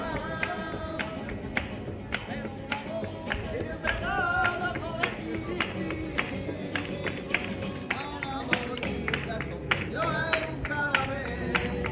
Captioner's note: hand-clapping